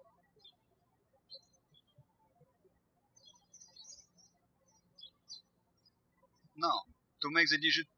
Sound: birds chirping

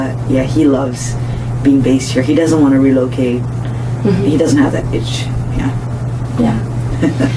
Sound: laughs

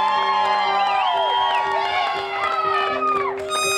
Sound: applause

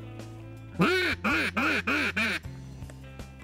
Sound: duck call

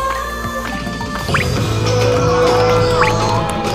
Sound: shouting

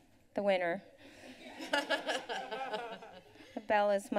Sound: laughter

